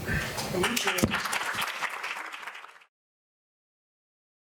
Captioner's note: applause